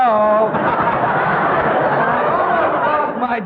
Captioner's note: all laughing